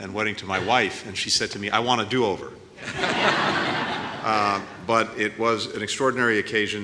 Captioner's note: laughter